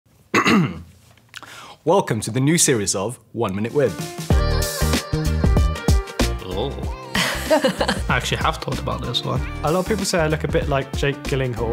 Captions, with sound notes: [Clears throat] Welcome to the new series of “1 minute with...” [Groan of discomfort] [Nervous laughter] I actually have thought about this one A lot of people say I look a bit like Jake Gyllenhaal